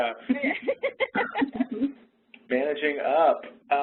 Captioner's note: laughs